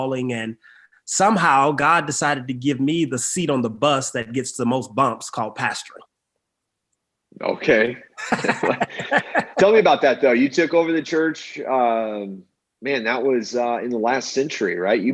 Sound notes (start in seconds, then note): 8.1 both laugh